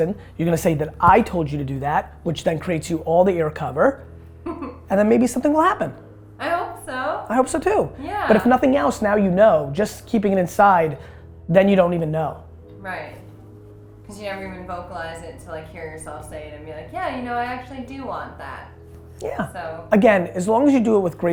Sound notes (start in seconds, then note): 4.4 woman 2 laughs